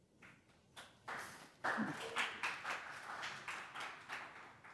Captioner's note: audience applauding